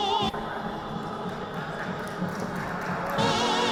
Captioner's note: audience applauding